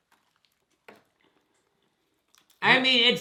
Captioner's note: both chew